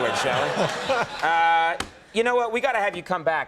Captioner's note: laughter